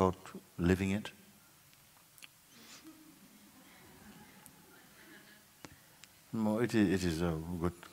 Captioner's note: laughter